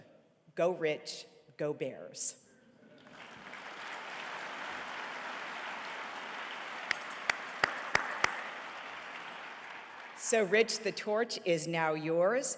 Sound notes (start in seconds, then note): 3.0 audience applauding